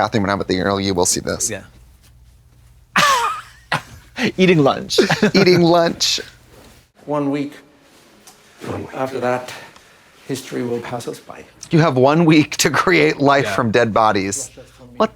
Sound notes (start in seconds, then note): 3.0 Katya hisses